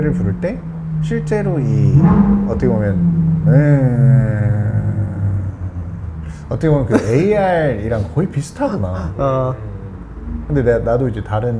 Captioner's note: vroom